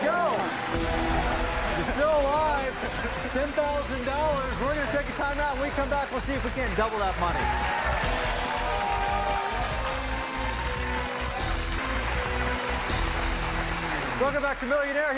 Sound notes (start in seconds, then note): 1.2 dramatic music; 8.4 cheers and applause; 11.1 dramatic music